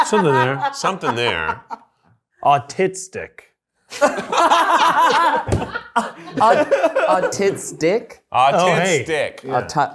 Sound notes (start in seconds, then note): 4.0 everyone laughing